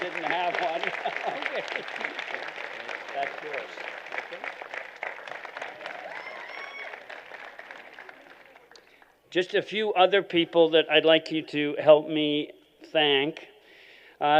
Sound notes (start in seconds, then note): 0.9 laughter